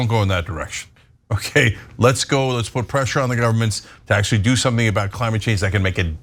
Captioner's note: laugh